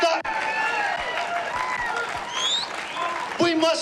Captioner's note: crowd cheering; crowd clapping